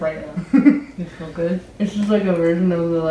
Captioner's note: laughs